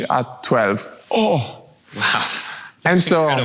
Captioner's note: gasps